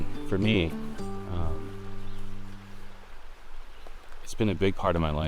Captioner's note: water rushes faintly